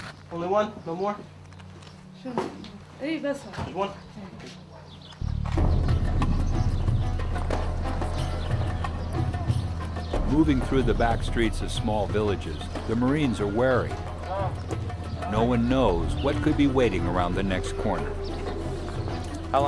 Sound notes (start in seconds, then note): 2.6 woman speaks in Arabic; 10.6 voiceover